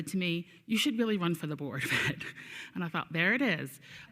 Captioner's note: chuckles